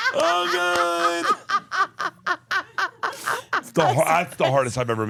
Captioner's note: laugh